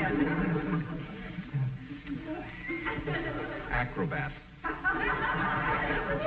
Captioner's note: chuckles